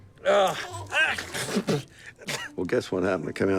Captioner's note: spitting